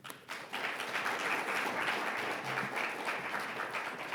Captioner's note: audience applauds